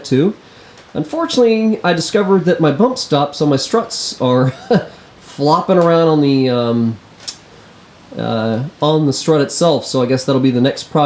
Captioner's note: chuckles